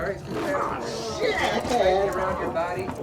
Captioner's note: creature growls